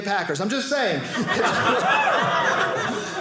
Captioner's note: audience cheering